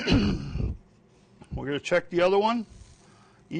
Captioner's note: clears throat